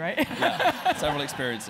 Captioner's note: laugh